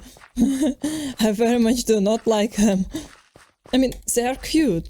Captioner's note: nervous chuckle